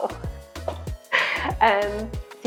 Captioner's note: chuckling